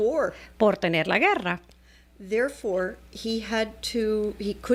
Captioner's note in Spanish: Hablando ingl\s